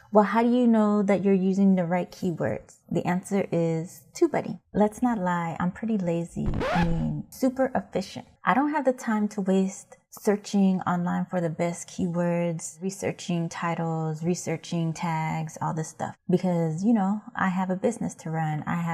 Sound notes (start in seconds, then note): 6.4 record scratching